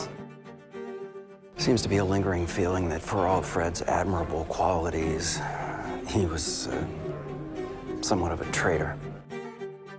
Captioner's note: voiceover